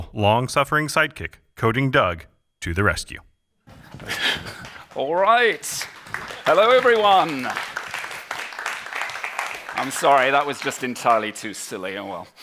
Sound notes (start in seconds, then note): 3.7 laughter